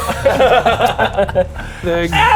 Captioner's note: unorganised laughter